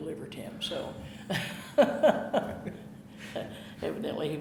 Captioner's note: chuckling